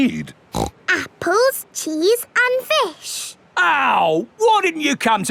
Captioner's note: snorts